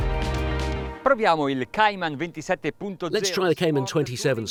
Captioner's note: speaking foreign language